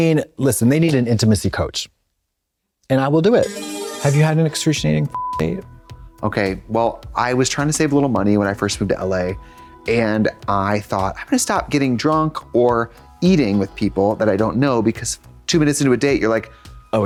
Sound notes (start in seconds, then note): 3.4 bright chime; 5.0 beep